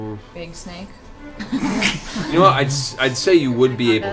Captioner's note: laughter